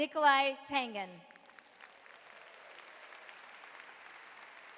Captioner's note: audience applauds